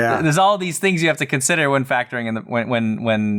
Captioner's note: none